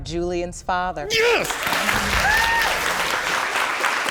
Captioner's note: applause and whooping